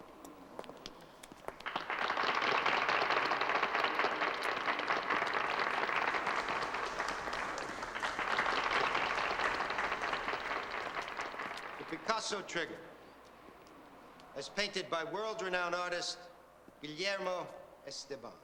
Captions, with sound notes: (crowd applauding) - The Picasso Trigger as painted by world-renowned artist Guillermo Esteban